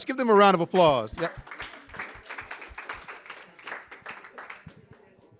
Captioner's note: audience applauding